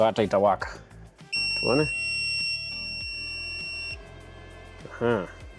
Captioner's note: inverter beeps